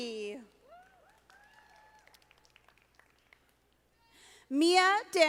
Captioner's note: audience applauding